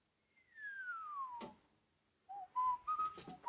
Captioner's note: Harry whistles